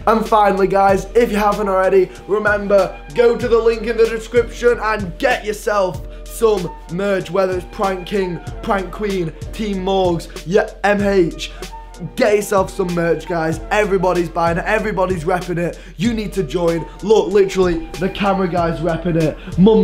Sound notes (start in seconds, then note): none